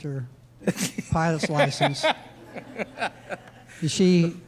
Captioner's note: laughing